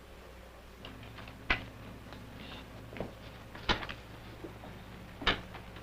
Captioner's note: footsteps